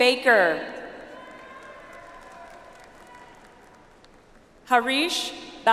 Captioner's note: audience applauds